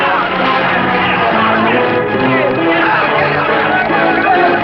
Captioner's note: shouting